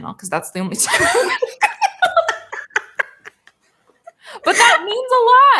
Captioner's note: both laughing